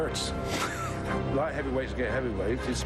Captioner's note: chuckles